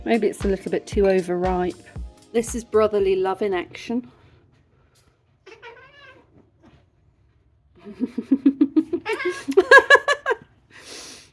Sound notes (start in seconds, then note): 5.4 cats yowling; 7.8 laughing